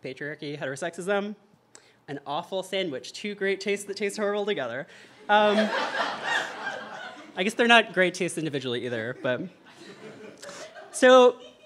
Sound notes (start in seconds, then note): 5.2 audience laughter